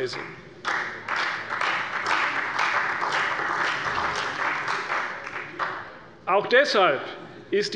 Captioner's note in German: Beifall bei der CDU und dem BÜNDNIS 90/DIE GRÜNEN